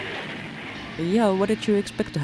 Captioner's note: splash